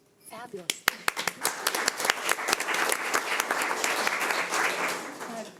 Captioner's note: audience applauds